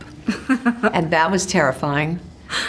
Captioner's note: laughs